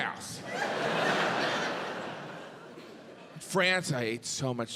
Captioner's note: audience laughs